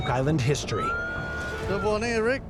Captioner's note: machine beeping